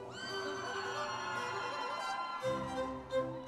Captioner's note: audience members cheering; classical orchestral music continues